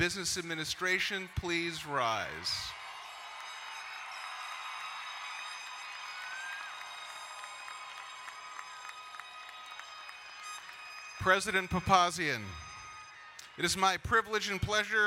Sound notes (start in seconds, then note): 3.1 crowd cheering and applauding